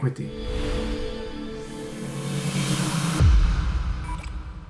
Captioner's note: dramatic whoosh